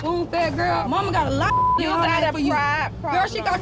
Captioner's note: beeping